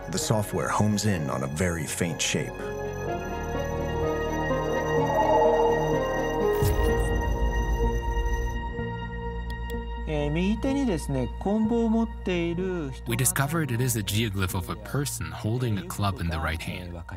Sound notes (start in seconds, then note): 2.6 dramatic music; 10.1 man speaking in foreign language